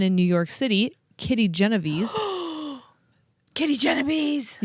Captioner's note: gasps